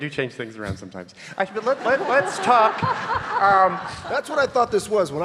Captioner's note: audience laughing